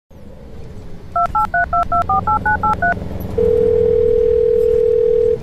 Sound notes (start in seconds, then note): 1.1 beep beep beep beep beep boop beep boop beep boop; 3.4 riiiing